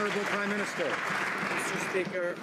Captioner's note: some Applause